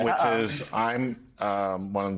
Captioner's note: laughs